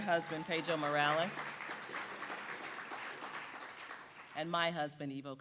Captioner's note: audience applauds